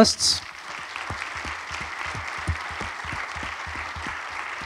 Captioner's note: audience applauds